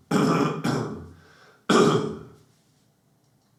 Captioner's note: clears throat